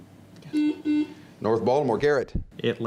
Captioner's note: buzzing